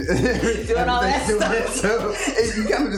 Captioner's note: both laughing